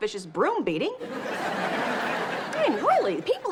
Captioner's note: audience laughs